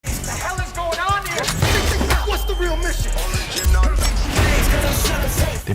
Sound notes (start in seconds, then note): 1.6 gun shot; 3.4 hiphop music playing